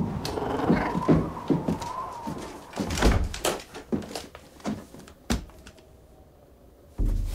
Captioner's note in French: vent qui souffle au loin; ronronnement inquiet; porte qui se referme